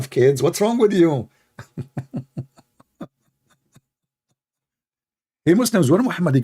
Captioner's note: Ketawa